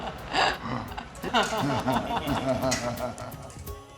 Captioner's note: they laugh